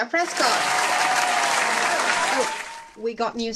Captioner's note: applause